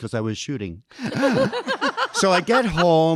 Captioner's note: audience laughing